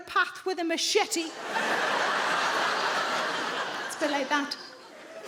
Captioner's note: audience laughing